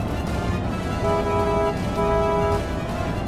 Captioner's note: car honking